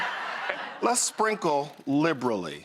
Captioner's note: audience laughing